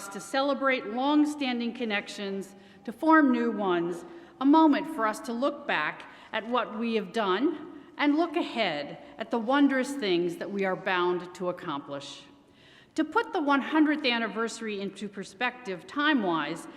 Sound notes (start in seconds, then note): none